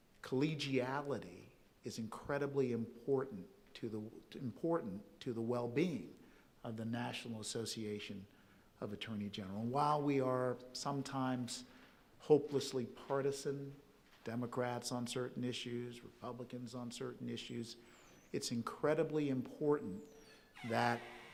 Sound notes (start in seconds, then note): 20.1 door creaking